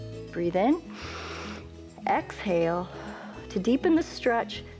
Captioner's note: exhales; inhales